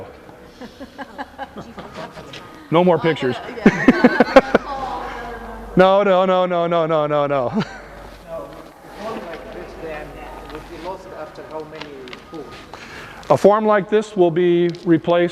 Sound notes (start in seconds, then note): 1.6 more laughter